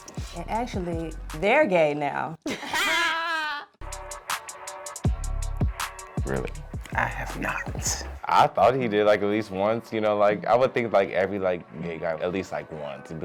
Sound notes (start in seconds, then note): 2.4 both laugh